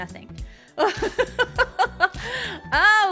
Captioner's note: laughing